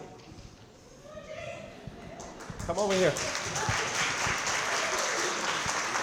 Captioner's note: crowd clapping & cheering